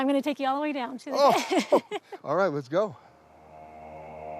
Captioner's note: laughs